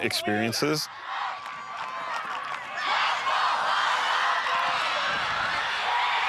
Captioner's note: crowd chanting; crowd cheering